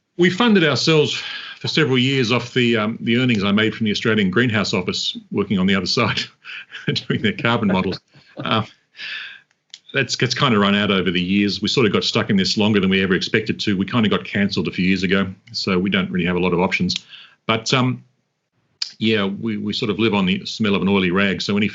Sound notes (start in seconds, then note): 4.4 chuckles